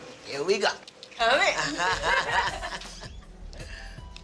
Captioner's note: both laugh